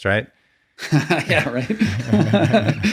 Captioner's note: laughing